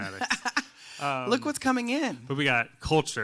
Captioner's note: laughs